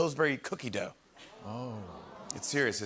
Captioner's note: audience ohs